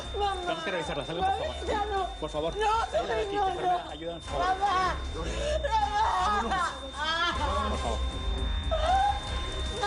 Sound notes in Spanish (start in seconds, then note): 6.5 Sonido continuo del monitor